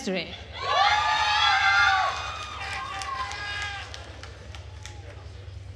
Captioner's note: attendees cheering and applauding